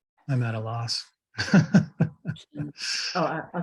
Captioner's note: chuckles